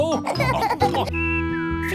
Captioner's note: laughing